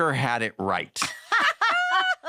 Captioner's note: laughter